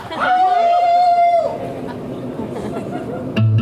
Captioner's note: they howl